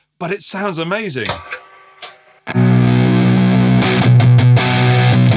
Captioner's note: chomp